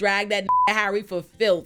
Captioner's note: beep